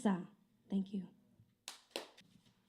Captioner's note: clapping